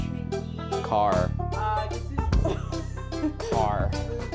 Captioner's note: gasps